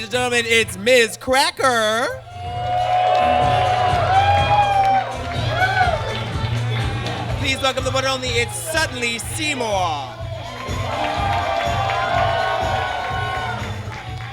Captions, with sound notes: Ladies and gentlemen, it's Miz Cracker! [audience cheers] Please welcome the one and only, it's Sutton Lee Seymour. [audience cheers]